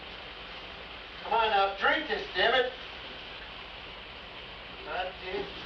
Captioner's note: shower Running